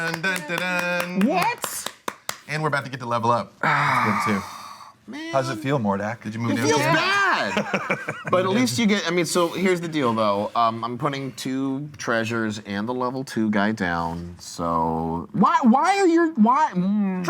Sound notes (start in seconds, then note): 0.0 clapping